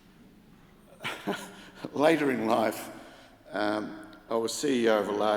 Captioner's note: chuckles